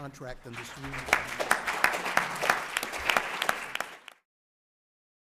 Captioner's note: applause